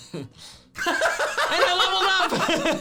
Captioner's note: laughing